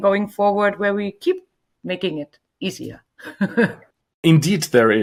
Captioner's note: chuckles